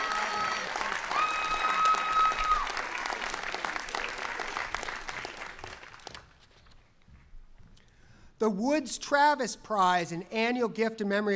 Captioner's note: applause